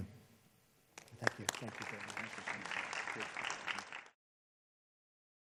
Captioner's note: applause